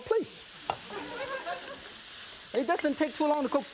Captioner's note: audience laughing